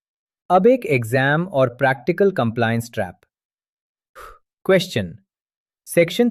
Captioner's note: exhales sharply